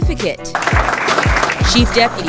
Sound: crowd claps

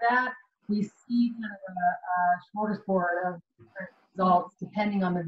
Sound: audio blurs

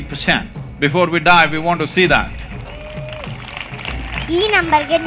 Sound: applause

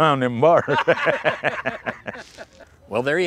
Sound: laughter

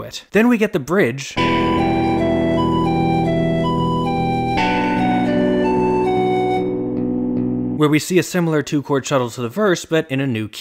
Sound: bang

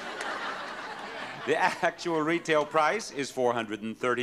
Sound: audience laughing

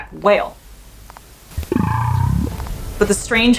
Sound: deep grumble sound

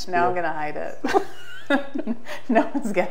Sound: both laugh

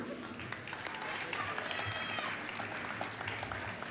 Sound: applause

